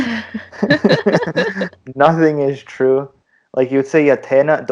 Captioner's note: laughter